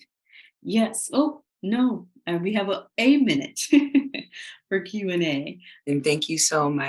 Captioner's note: laughing